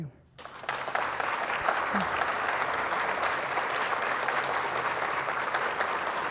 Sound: audience applauding

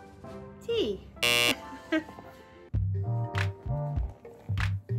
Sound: buzzer blares

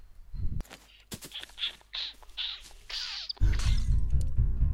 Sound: smooching noises

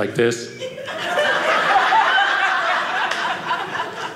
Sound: audience laughing

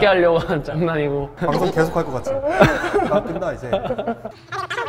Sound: threatening

